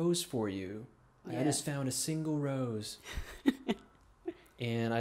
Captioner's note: laughing